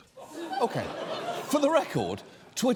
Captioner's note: audience laughs